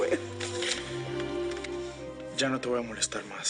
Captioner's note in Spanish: Sollozos